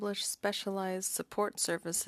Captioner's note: speaking French